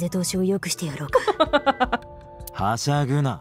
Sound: chuckles

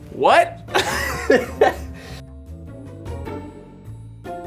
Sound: laughs

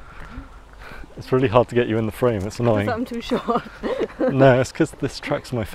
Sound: laugh

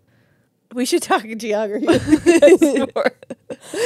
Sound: laugh

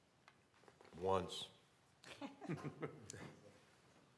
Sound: laughter

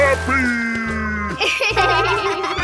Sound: giggling

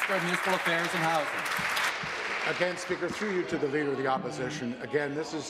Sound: applause

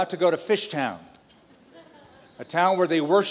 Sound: laughter

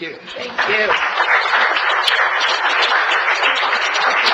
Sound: audience applauds

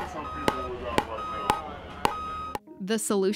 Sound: ball pwocking and truck beeping

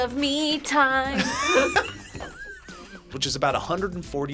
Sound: both laugh

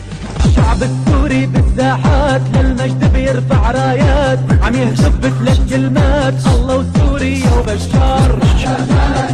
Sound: foreign language

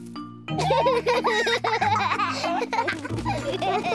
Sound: both laugh

